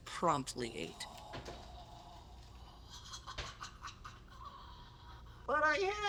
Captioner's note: devouring noises